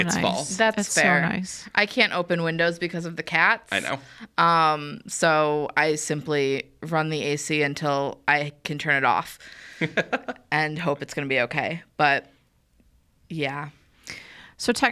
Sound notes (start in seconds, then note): 9.8 laughs